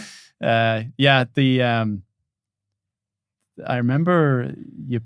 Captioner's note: laughing